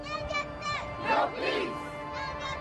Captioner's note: crowd